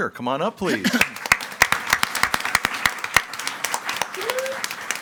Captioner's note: audience applauding